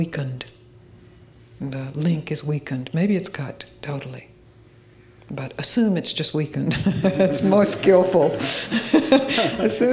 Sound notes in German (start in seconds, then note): 6.7 Zuhörer lachen